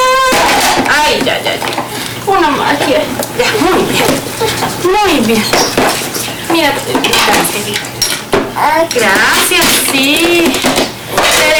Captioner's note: mother speaking calmly in Spanish